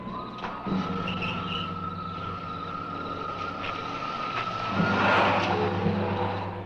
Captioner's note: engine rumbles; engine cranks